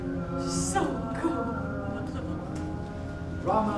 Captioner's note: speaking in a foreign language